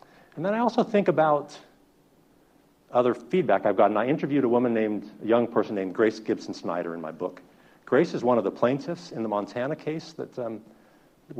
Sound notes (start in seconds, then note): none